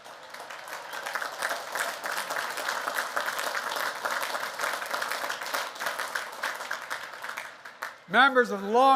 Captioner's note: applause